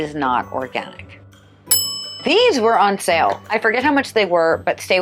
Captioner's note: ding